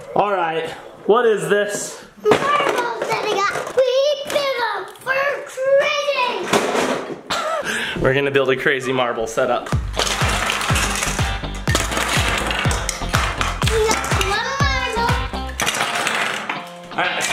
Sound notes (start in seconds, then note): 7.2 laughing; 9.7 upbeat music